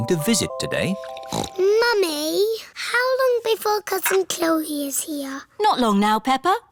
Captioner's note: snorts